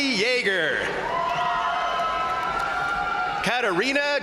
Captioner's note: crowd cheering; crowd applauding